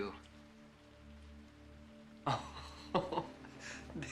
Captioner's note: laughing